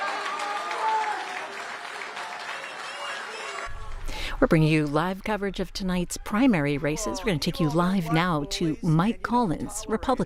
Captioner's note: cheers and applause